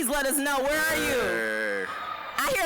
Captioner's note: attendee screaming joyfully